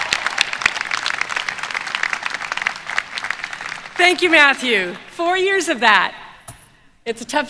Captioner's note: applause